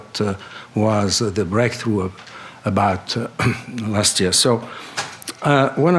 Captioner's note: clears throat